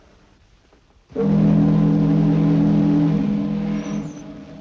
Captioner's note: ships horn blowing